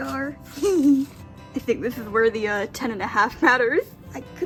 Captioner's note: laughing